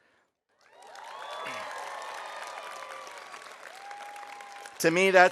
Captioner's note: audience applauding; audience cheering